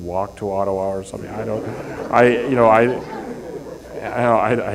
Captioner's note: laughter